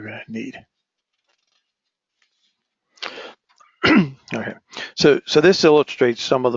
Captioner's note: cough